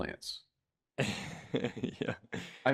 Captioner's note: laughs